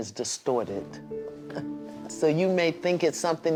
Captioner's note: chuckles